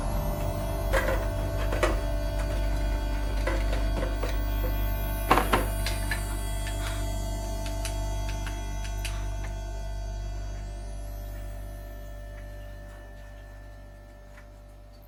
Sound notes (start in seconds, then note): 0.8 objects clatter; 7.0 flashlight clicks; 7.0 music fades